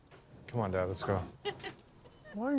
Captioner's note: laughs